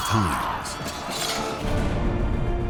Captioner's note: yelling